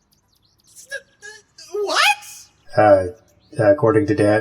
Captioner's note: confused stammering